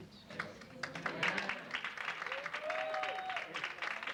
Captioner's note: audience applauds